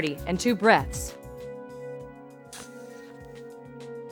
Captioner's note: blowing